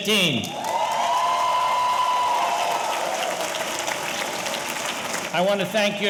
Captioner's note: audience cheering; audience applauding